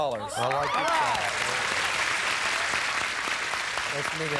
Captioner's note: audience applauding